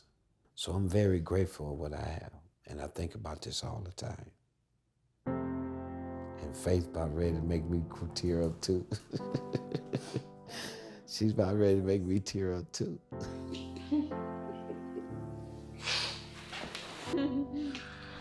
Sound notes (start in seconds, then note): 8.9 laughing; 10.6 slow music; 13.3 laughing